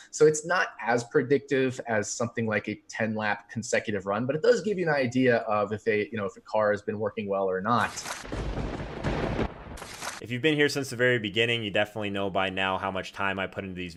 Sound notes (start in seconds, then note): 8.2 thunder rumbling